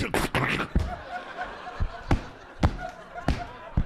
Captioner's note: audience laughing